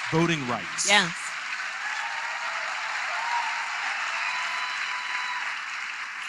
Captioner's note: applause